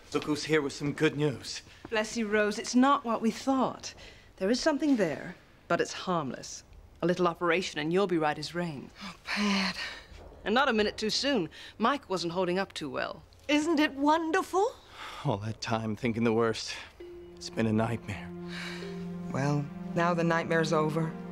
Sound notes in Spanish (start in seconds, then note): 10.4 Pat